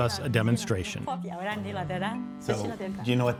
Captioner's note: speaking in foreign language